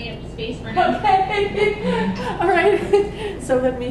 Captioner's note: laugh